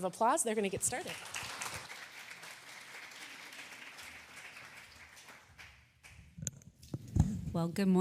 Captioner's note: applause